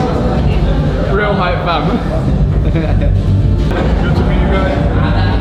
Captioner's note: laughing